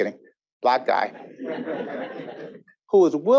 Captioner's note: audience laughing